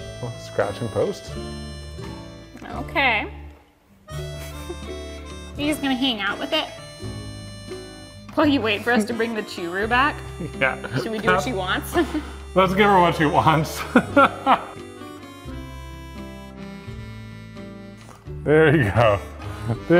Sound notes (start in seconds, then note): 13.6 laughs